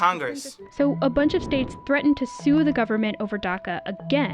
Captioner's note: voice-over